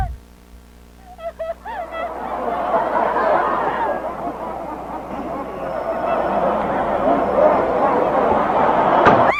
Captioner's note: Hannah screams as she is tossed out of the closet; Hannah cries as disembodied laughter pierces the darkness